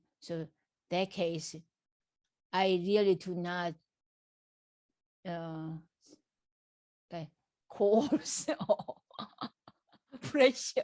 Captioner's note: laugh